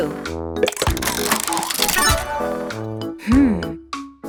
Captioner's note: mechanical whirring